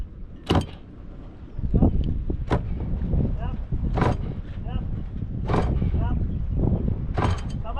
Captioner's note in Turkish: Vinç sesi